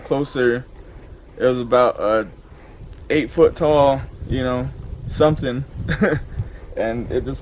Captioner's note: chuckles